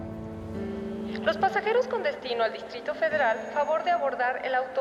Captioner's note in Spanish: por altoparlantes